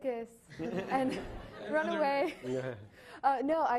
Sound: laughing

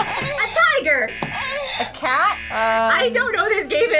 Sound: buzzer moans

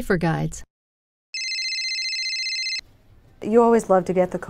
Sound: telephone ringing

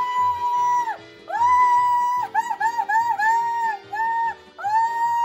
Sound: cheering continues

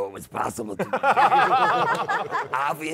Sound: laughter

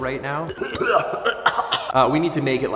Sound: coughs

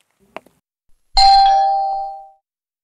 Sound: door bell rings

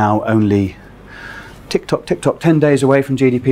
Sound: makes ticking noises

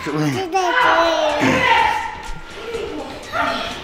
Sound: babbles; gasps

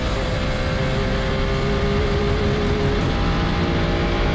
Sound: engine revving

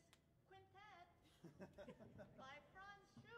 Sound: musicians laughing

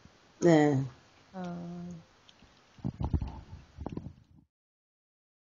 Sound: speaks in foreign language

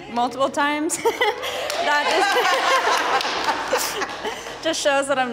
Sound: group applauding and cheering

